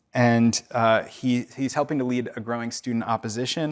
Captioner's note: none